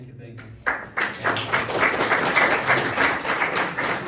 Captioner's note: crowd applauds